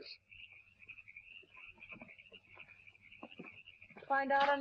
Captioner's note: crickets chirping